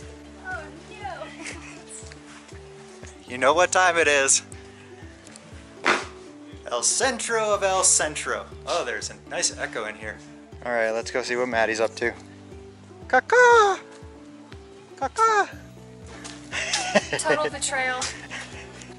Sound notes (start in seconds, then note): 13.1 imitating a bird